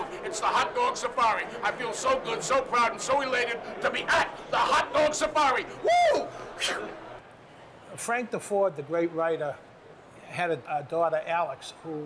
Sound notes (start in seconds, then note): 7.2 yells